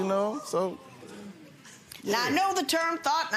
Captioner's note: audience exclaiming